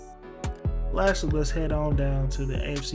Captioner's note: voiceover